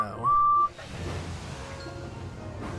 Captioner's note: edward whistles